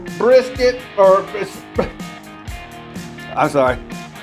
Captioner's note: laughs